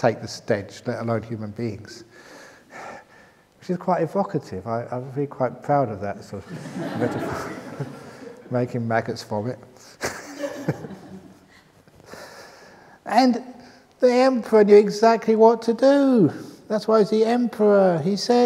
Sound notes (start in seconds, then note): 10.0 laughter; 11.5 laughs